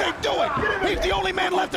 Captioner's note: crowd chatter